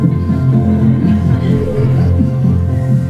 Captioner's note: audience laughter